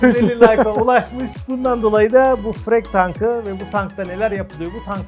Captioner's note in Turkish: kahkaha